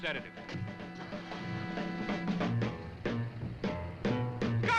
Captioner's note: engine rumbling; dramatic music